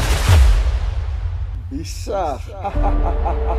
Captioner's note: laughing